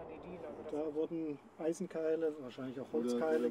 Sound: speaking German

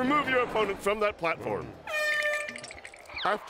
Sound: air horn blows

